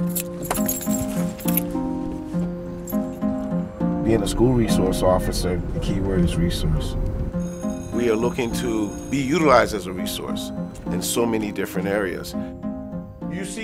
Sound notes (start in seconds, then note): 0.0 keys jingle; 7.4 school bell rings